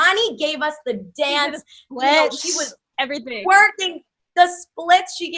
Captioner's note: chuckles